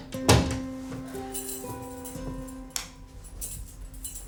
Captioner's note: keys rattling